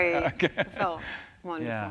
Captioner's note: laughs